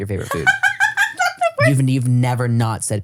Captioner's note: laughs